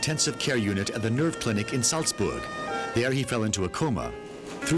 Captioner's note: ambulance siren ringing